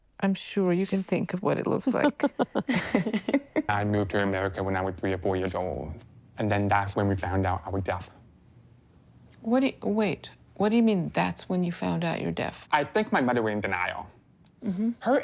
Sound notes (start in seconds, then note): 1.9 couple laughs